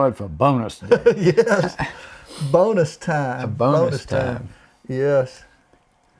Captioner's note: laughs